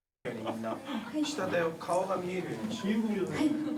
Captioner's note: speaking in foreign language